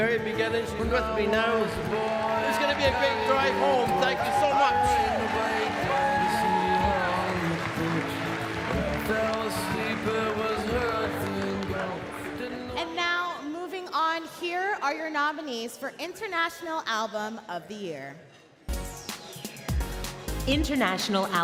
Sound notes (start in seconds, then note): 9.8 cheering and Applause